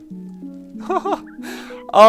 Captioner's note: chuckle